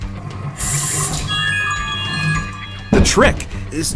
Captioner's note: phone jingle